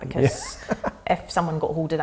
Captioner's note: laughing